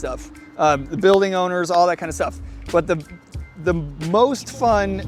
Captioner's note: claps